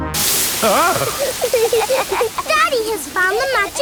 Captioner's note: laughing